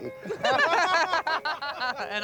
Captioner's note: all laughing